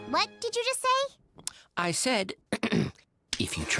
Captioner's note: Tobey clears his throat